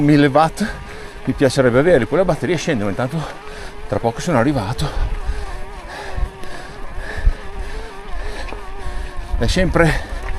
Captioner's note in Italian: gemito